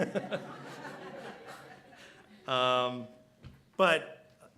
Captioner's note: laughter